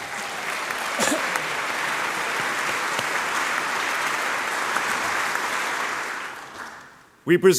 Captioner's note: applause